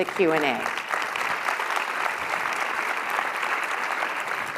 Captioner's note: applauding